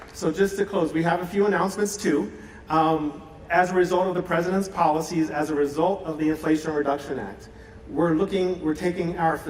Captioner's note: applause